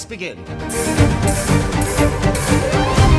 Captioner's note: swords clashing